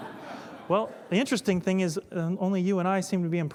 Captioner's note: laughter